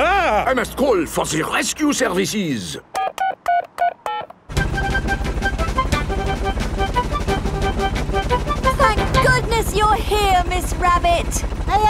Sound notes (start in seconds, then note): 3.0 dialing